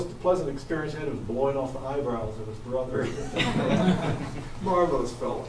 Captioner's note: everyone chuckles